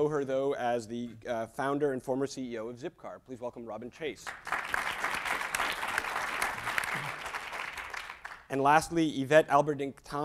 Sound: applause

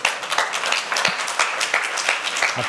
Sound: applause

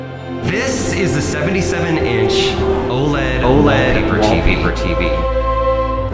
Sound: echoing

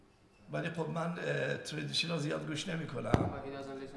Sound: speaking in farsi

